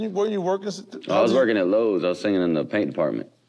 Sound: none

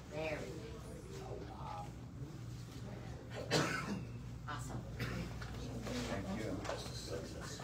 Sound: indistinct chatter

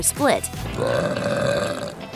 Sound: belch

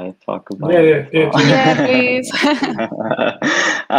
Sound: laughs; laughing

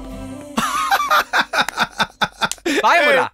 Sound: laughs

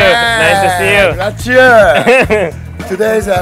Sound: speaks in Japanese

